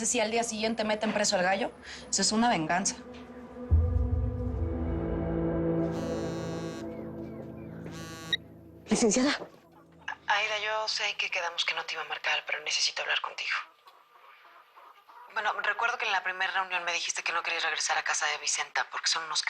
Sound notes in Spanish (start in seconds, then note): 7.8 Vibra el celular